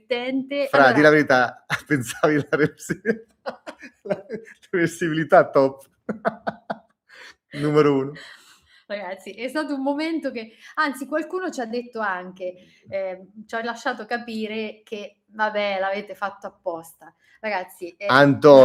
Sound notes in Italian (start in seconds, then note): 6.1 risate